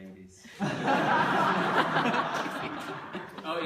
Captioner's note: laughter